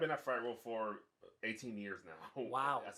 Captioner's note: laughs